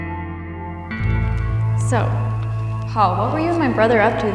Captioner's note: voice-over